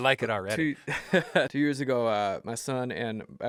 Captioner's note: laugh